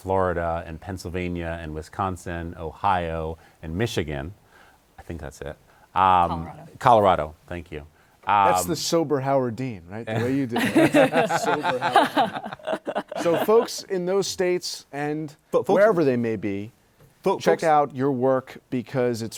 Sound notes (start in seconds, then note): 10.2 laughter